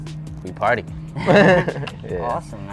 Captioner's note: laughs